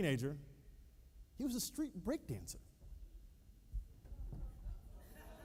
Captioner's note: laughter